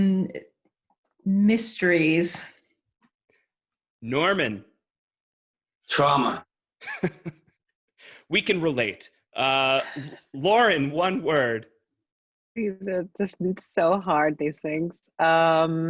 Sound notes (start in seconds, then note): 6.8 chuckling